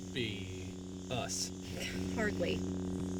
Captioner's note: scoffs